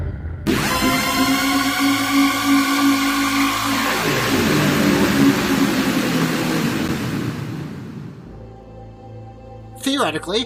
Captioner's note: dark Fountain Sounds